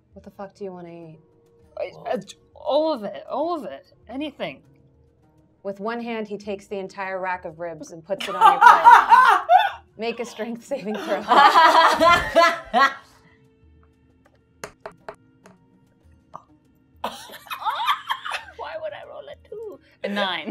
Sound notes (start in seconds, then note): 8.2 gamer laughing; 10.8 gamers laughing